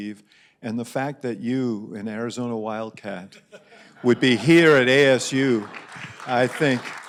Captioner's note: applause